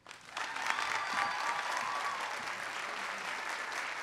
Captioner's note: applause